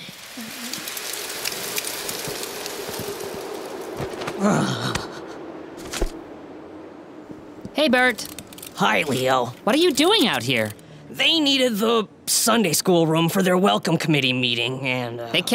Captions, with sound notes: (sound of leaves rustling and wind blowing) (Burt shivers) - Hey, Burt. - Hi Leo. - What are you doing out here? - They needed the Sunday school room for their Welcome Committee meeting, and uh--